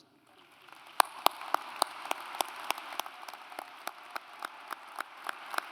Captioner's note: audience applauds